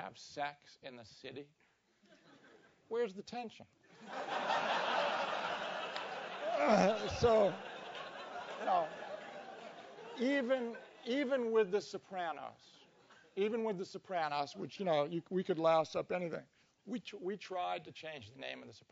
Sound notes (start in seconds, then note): 6.6 cough; 7.8 laugh